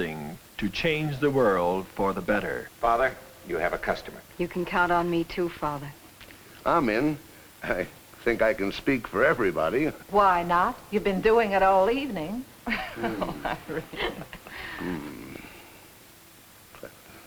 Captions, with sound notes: can do something to change the world for the better. - Father, you have a customer. - You can count on me, too, Father. - I'm in, I think I can speak for everybody. - Why not, you've been doing it all evening (laughs).